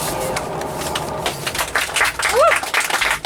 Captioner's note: applause